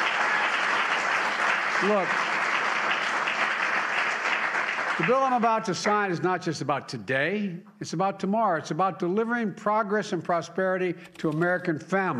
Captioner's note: applause